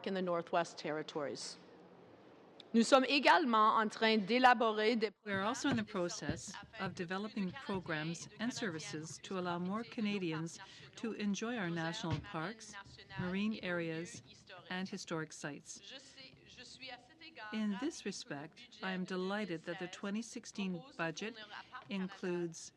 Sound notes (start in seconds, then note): 6.3 speaking in french